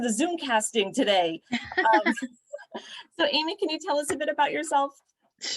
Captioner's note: laughter